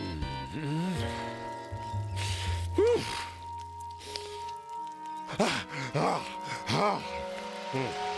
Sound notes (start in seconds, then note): 6.2 panting